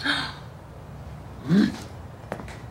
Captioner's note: Tiffany gasps; Tiffany groans